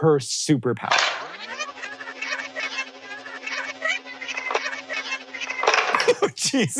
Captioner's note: tape whirs; BOTH laughing